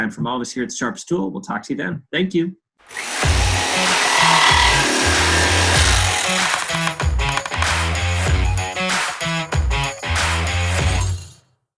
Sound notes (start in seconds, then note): 2.9 saw buzzing; 3.2 rock music